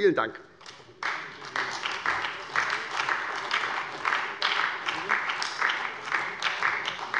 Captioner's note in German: Beifall bei der SPD